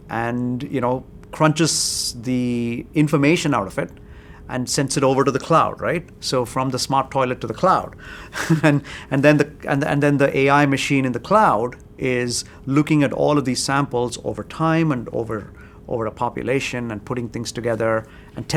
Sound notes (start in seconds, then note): 8.3 laughs